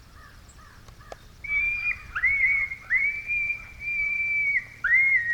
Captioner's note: coyote call shrieking